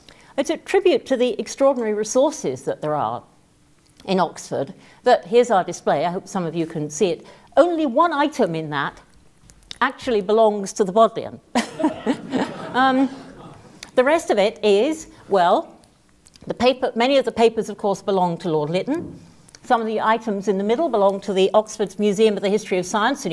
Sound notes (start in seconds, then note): 11.6 laugh